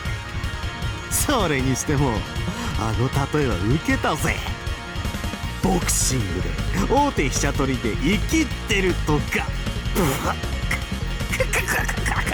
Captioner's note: laugh